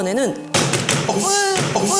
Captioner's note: bang! bang! bang!